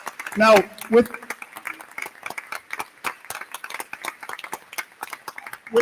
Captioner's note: crowd clapping